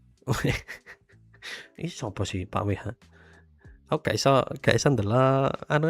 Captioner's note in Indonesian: tertawa